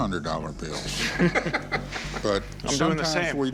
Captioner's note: laughter